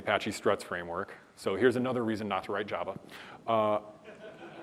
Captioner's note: laughter